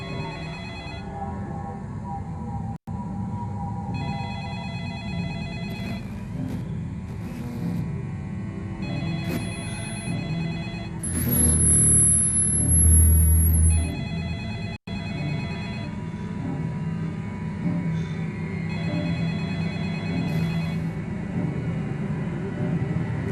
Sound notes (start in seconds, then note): 0.1 suspenseful Music; 4.1 telephone Ringing